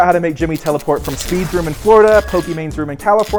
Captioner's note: electricity buzzes